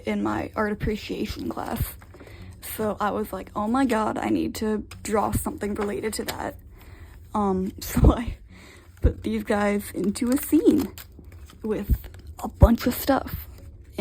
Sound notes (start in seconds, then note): 8.3 laughs